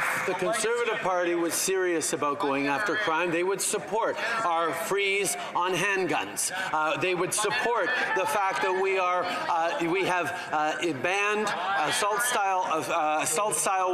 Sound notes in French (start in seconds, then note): 1.6 voix de l'interprète